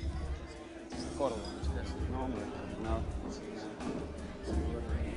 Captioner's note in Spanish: Murmullo de voces